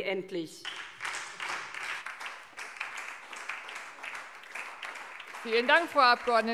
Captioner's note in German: Beifall SPD und vereinzelt DIE LINKE